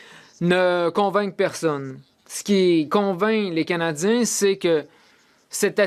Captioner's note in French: voix de l'interprète